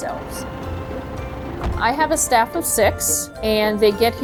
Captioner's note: engine rumbles